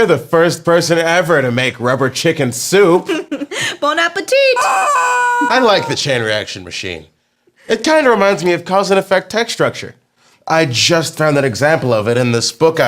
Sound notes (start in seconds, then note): 3.0 laughter; 4.3 chicken sounds